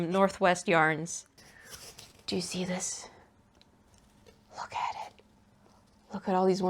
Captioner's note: cardboard rustles